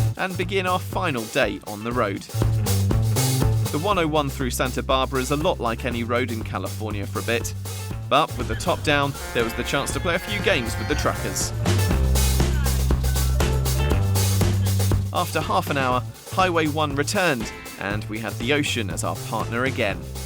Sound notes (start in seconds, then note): 8.4 horn sounds